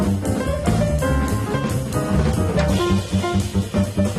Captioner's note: none